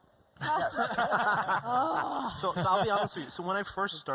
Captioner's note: laughing; groans